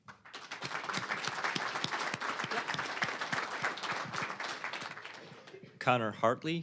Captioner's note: applause